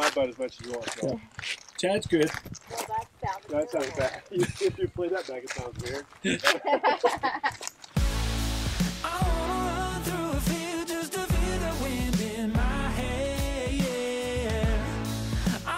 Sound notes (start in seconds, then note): 6.2 laughs